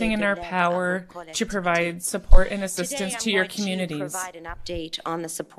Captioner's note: speaking French